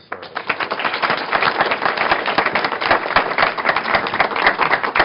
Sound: applause

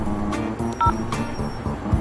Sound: beep

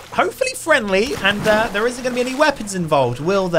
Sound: water splashing

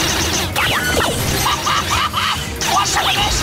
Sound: laughing

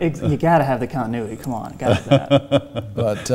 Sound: laughs

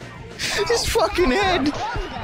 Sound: laughing

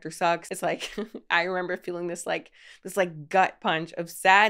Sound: laughs

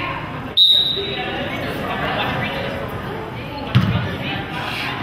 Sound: whistle blows

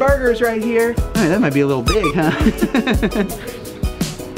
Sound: laughs

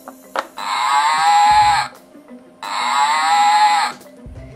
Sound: cow Sound

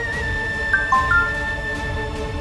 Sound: phone chimes

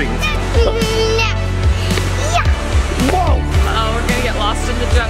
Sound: exclaims

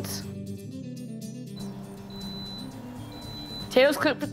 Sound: Instapot beeps

